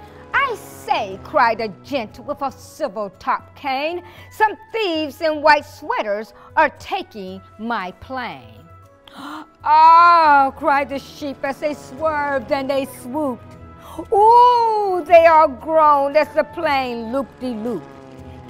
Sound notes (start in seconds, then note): 9.0 gasps